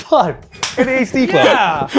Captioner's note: hands clap